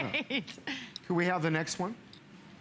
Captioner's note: laughter